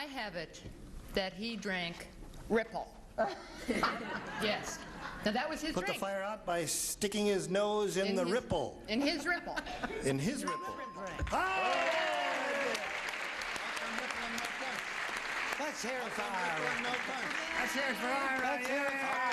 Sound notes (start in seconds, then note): 10.4 dings; 12.5 applauding